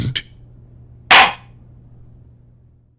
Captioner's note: gavel slam!